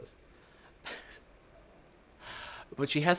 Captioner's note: chuckles